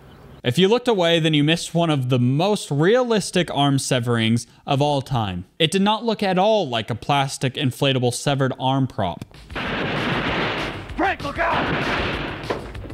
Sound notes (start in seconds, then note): 9.5 gunfire